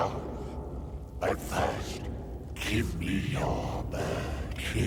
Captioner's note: none